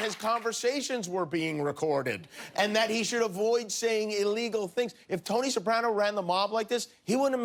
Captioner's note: cheers and applause